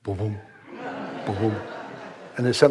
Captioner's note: audience laughs